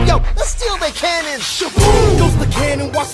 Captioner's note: boom!